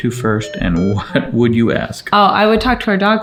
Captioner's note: chuckling